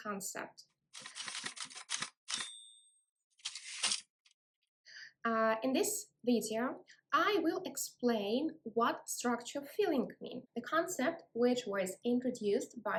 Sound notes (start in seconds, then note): 1.0 typewriter sounds